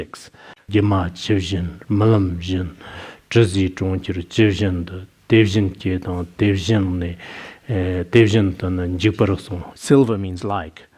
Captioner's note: citing scripture in Tibetan